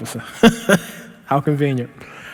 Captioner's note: laughing